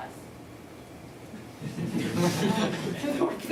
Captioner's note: laughter